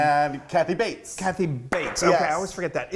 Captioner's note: claps